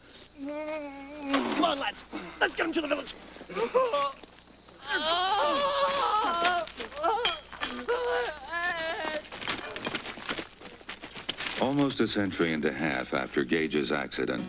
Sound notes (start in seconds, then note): 4.8 Gage makes crying noises